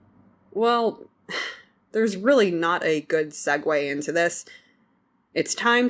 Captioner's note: sighs